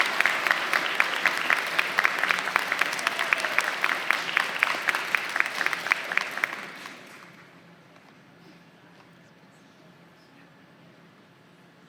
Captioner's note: applause